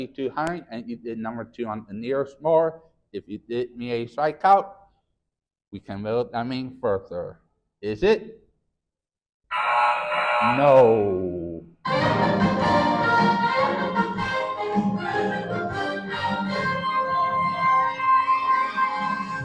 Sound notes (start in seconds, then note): 10.1 error sound effect; 11.8 triumphant music